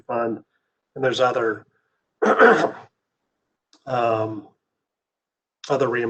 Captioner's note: clears throat